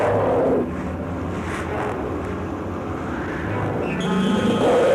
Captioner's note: growling